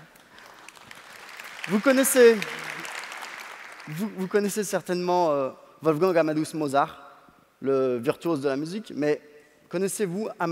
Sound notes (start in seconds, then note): 0.0 applause; 0.5 speaking french